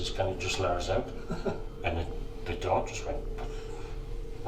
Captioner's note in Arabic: يضحك